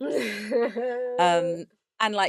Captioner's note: laughs